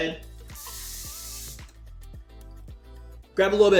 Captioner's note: water running